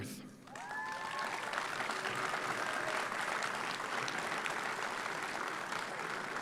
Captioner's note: audience applauds; audience cheers